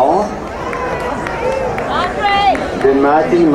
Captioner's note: crowd cheering